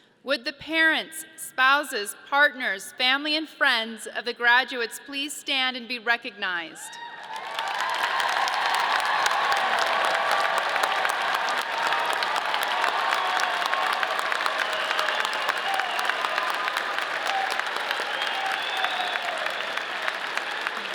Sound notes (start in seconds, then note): 7.2 audience cheers